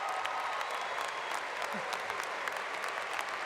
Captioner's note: applause